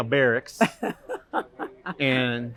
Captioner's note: laughter